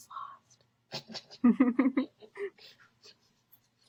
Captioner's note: both laugh